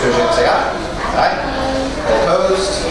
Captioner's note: A chorus of ayes